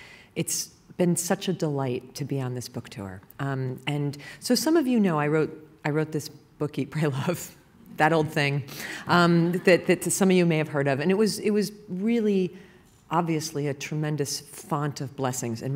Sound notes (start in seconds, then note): 9.4 laughter